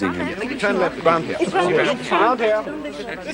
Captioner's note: all chattering